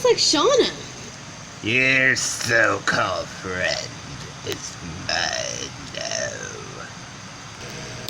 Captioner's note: Kind Of Doing A Palpatine Voice For The Line